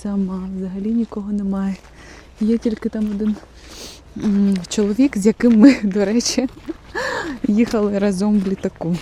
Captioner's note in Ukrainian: сопіння